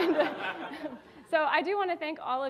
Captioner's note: audience applauding